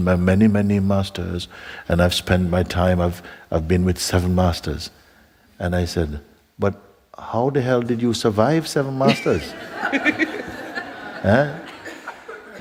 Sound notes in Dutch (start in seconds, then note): 9.0 gelach